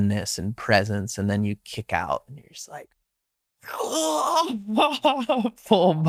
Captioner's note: gasping loudly